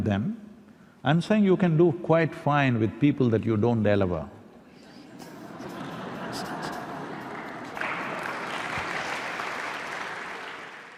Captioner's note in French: Rires / Applaudissements